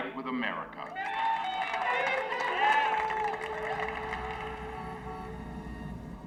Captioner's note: people clapping